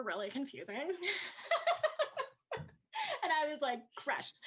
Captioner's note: laughs